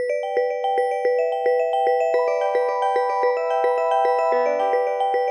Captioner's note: ring tone